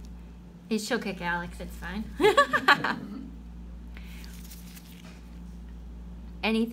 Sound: laughing

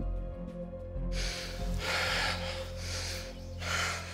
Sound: heavy breathing

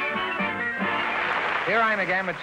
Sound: applause

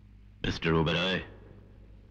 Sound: none

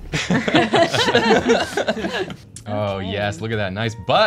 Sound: laughter

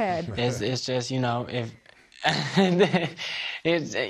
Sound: laughs

